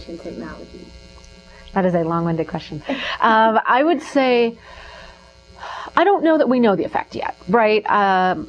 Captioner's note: laughs